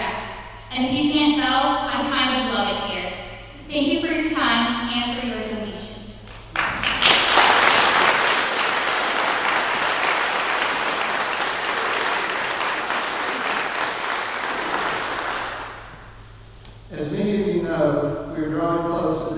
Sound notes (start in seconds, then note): 6.2 clapping